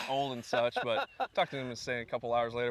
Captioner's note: laughter